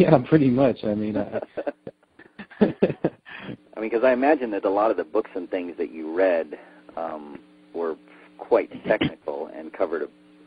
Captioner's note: laughs